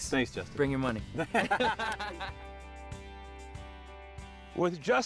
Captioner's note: laughing